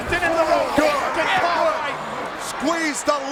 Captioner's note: overlapping chatter